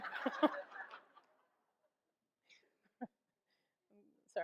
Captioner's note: audience laughs